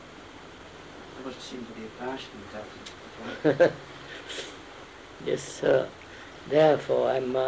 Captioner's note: laughs